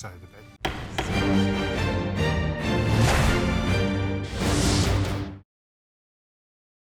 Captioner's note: dramatic music; gavel knocking